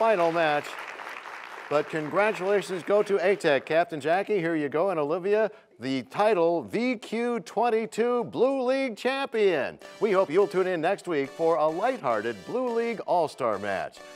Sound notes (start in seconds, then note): 2.2 applause